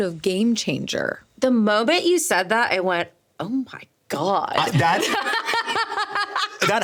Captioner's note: laughing